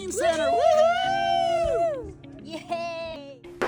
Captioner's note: all cheering